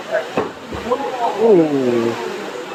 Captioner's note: concerned “Ooh”s